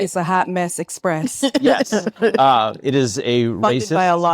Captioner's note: attendees laughing